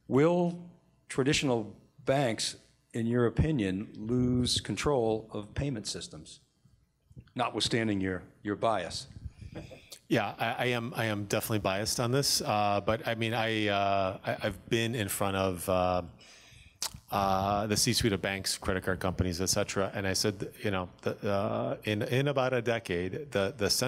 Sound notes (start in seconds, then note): 9.5 laughter